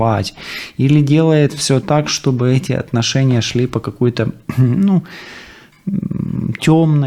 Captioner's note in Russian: откашливается